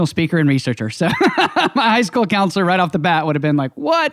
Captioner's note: laughing